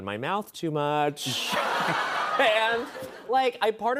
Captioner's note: laughter